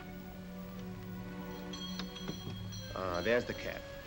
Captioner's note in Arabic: يرن جرس الباب